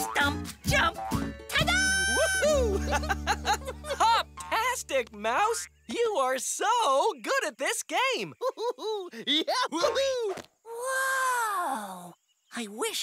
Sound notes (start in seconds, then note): 2.4 giggles; 8.4 laughs